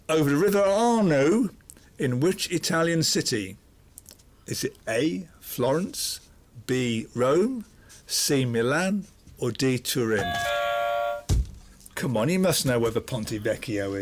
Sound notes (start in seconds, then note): 10.2 buzzer